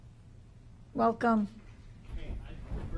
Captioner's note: microphone cut